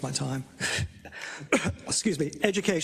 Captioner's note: cough